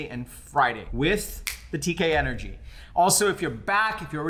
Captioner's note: snaps fingers